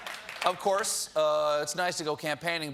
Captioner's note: applause